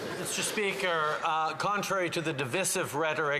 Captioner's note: applause